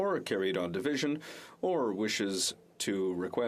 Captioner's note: speaking French